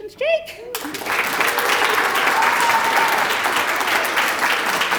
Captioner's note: applause